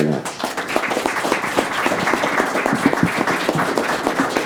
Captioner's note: audience applauds